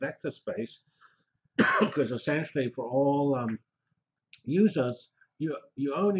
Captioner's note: cough